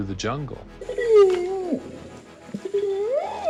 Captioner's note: howls